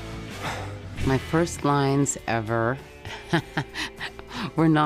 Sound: laughing

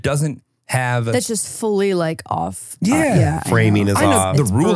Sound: laughs

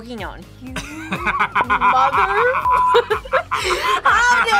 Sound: laughs

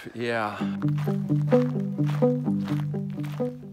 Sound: footsteps crunching

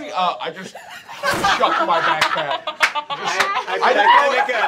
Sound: laughter

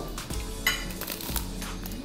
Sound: Crunch

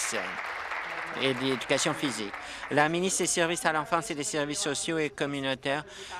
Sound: applause

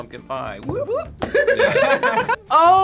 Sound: group laughs

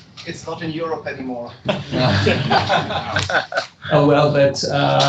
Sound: laughter

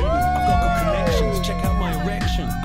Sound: cheers

